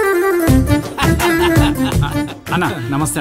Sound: laughs

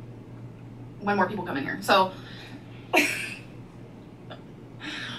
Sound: laughing

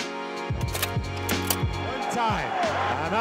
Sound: gentle music; slide clicks

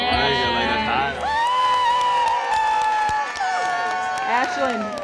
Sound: cheers and applause

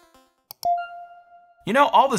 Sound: logo chiming

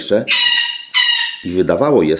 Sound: parrot sounds

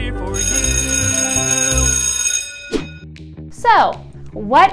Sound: school bell ringing

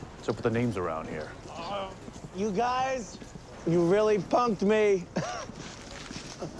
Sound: laughs

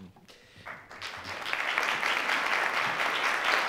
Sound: audience Clapping

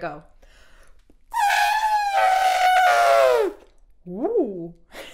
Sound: imitating elephant trumpeting

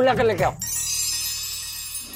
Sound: chimes

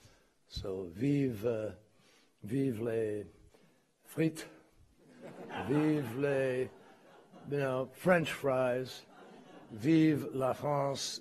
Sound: laughter

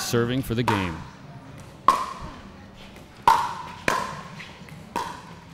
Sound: ball bouncing

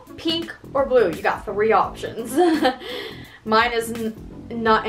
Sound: laughs

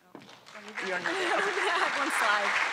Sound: attendees applauding

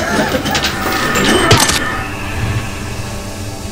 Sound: blade slicing

